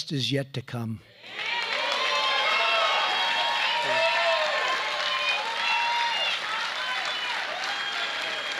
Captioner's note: applause